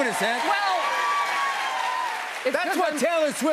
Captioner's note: cheers and applause